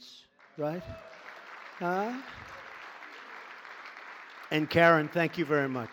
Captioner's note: applause